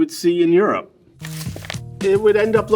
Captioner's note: paper rustling